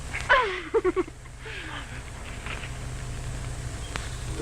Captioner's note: Connie giggles